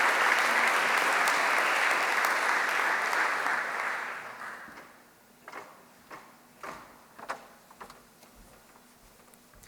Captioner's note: applause